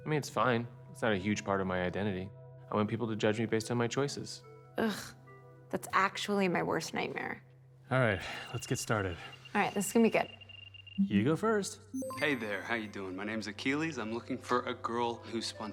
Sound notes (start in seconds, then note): 8.8 system beeps